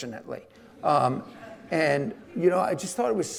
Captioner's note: audience laughing